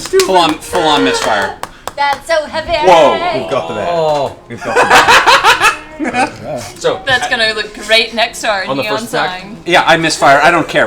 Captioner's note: cackles